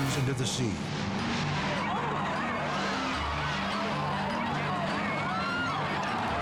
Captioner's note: crowd gasps and chatters